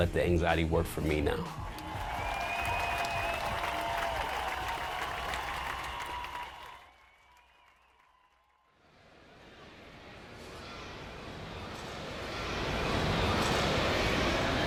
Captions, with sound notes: and I know how to let the anxiety work for me now. [APPLAUSE]